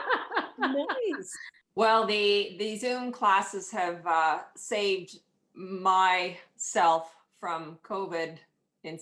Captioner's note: laughter